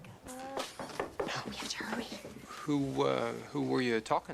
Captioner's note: man knocks